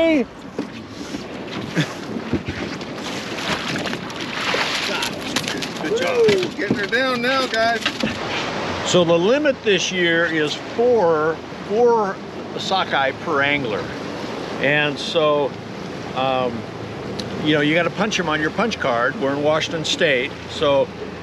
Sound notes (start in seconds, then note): 0.6 fish splashing; 8.9 chuckling